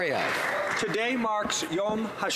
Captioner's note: some Applause